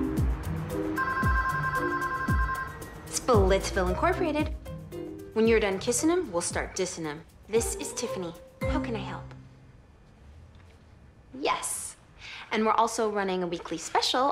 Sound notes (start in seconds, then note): 0.9 phone rings